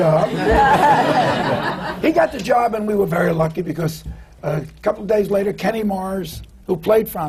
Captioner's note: laughter